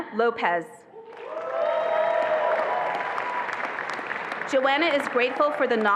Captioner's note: attendees applauding and cheering